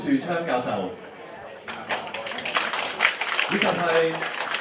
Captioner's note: Applause; 掌聲